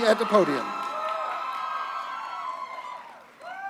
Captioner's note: applause